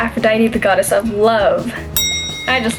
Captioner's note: bell ring